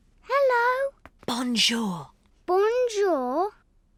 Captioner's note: whispering